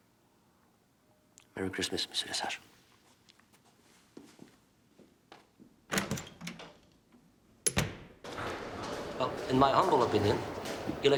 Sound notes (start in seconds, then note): 7.6 door closes